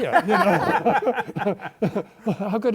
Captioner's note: laughter